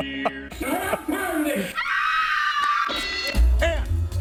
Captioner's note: woman screams; bell rings